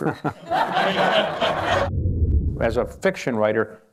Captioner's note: laughter